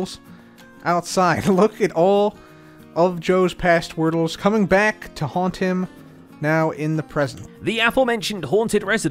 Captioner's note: chuckles